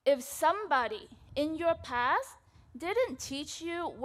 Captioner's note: none